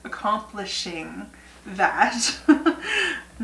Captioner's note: laugh